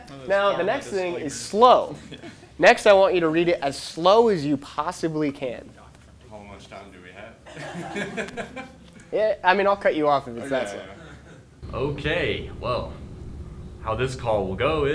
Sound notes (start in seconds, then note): 7.4 laughing